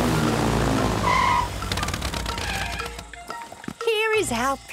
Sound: tires screeching

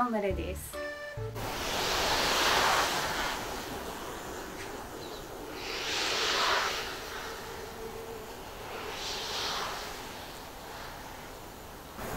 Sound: shimmering

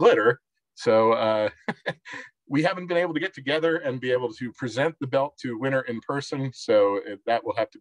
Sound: chuckles

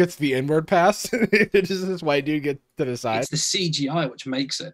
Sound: chuckles

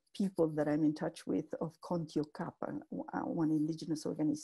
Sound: spanish speech

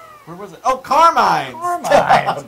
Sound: laugh

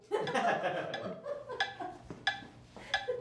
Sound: laughing

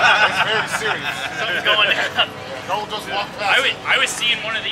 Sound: men laugh

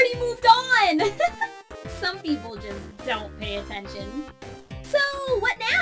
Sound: laughs

